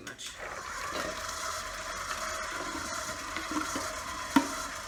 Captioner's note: mixer buzzing